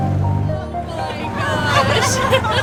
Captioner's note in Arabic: ضحك